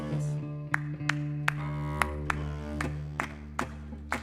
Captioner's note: audience clapping